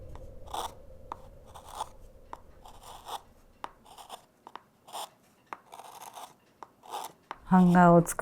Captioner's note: carving sounds